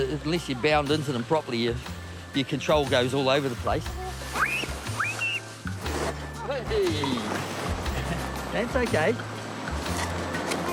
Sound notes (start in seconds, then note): 4.4 screams excitedly